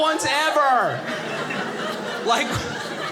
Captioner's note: audience laughing